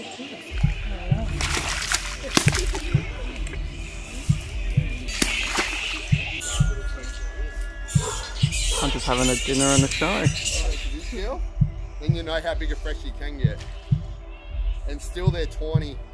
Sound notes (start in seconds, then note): 1.2 crocodile splashing and chewing; 8.1 birds chirping